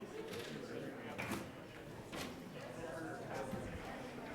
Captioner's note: people chattering